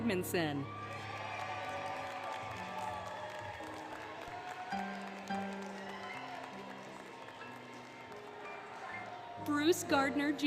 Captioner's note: applause, Cheering, Music